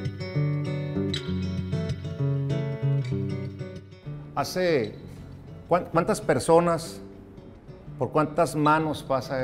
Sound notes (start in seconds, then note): 0.3 playful guitar music; 4.6 speaking in foreign language